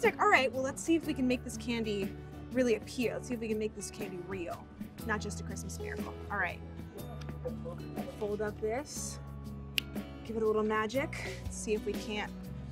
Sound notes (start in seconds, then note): 9.7 snaps